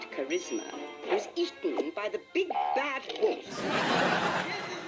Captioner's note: audience laughing